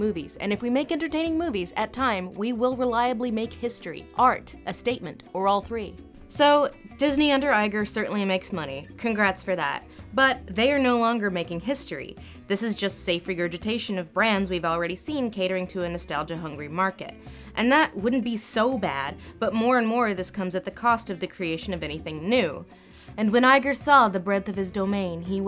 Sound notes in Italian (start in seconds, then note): 17.9 voce fuori campo